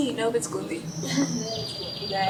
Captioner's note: birds chirping